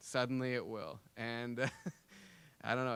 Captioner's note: laughing